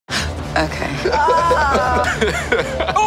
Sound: laughing

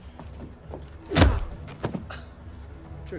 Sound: cries out; whacks

